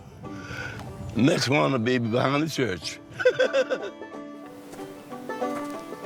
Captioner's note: laughing; upbeat music